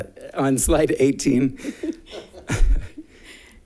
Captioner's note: laughs